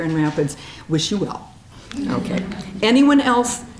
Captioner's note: audience chuckling